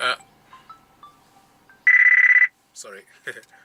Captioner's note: phone rings